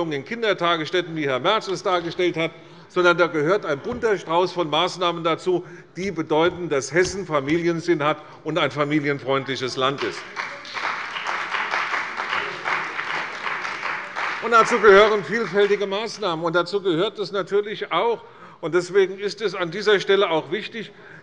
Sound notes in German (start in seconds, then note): 9.9 Beifall bei der CDU und dem BÜNDNIS 90/DIE GRÜNEN